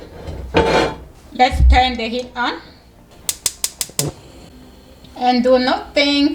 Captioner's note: stove clicking